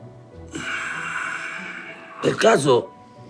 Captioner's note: heavy sigh